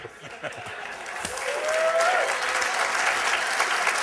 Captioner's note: cheers and applause